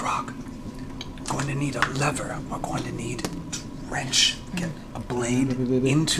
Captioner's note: whispers